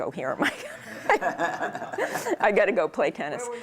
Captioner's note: laughter